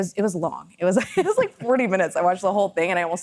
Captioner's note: laughs